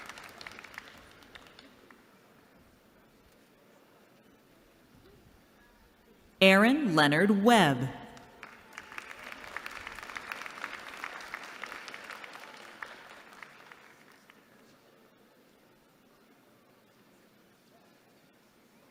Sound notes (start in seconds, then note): 8.3 applause